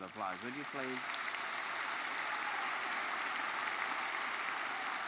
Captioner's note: audience applauds